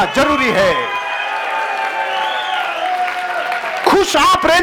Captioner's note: cheering and applauses